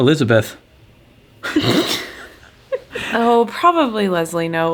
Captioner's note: laughs